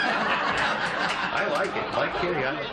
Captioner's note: laughter